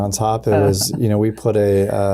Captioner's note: chuckling